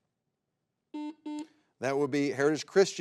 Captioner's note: button blips